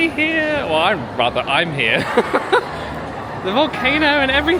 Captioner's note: laughing